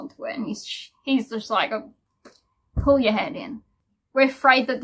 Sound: Gibs slap

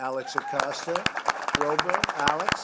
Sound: applause

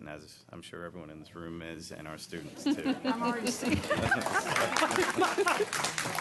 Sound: applause

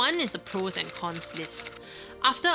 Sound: typewriter clicking

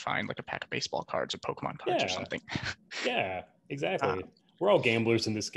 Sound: laughs

